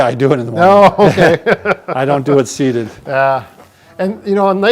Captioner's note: chuckles